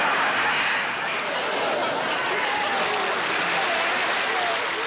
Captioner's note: laughter; applause